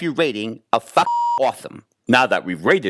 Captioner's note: beep